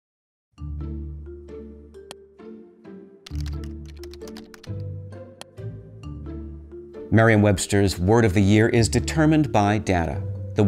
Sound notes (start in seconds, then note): 0.6 mellow music; 0.6 mouse clicks; 3.2 keyboard clicking